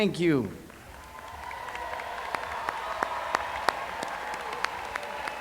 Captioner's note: cheers